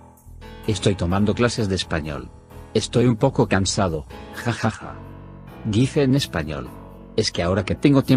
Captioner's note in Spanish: dice en español